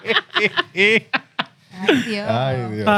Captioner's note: laughing